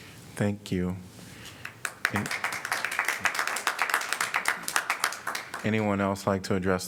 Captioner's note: applause